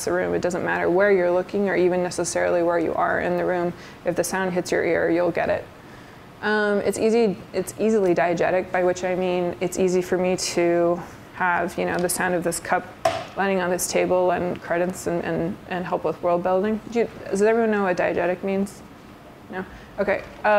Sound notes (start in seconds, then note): 13.1 soft thud